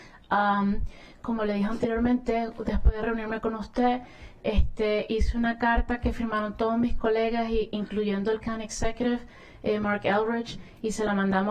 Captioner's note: speaking spanish